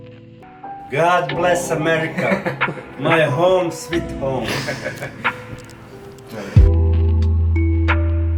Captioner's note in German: Lacht